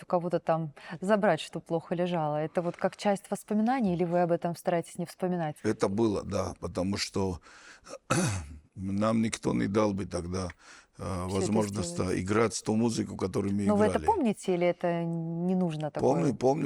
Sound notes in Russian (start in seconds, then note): 7.9 откашливается